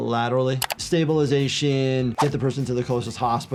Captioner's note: keyboard clicking